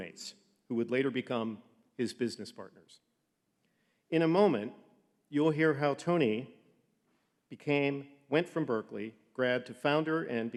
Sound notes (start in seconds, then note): none